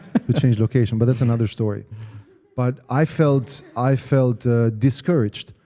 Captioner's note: laugh